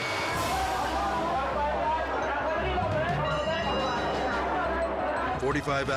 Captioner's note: people speaking in foreign language